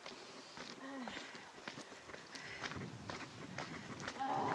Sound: sound of footsteps; groaning

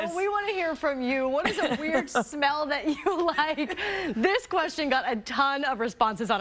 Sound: laughter

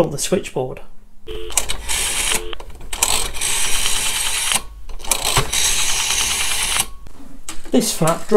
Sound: dialling noises!

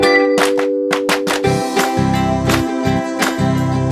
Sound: applause; applause

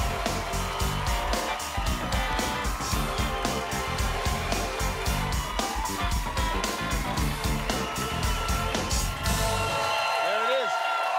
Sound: cheers and applause

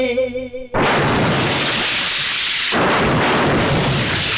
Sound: thunder

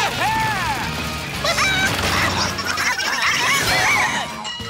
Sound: squawking

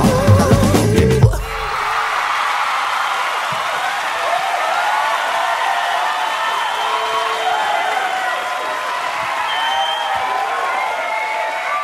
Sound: crowd cheer

